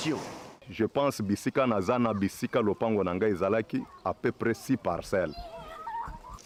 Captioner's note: local language